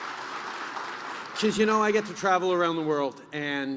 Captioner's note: applause